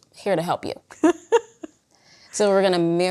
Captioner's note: laughs